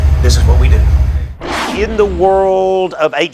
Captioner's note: intense whooshing